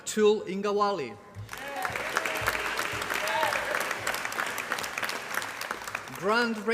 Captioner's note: applause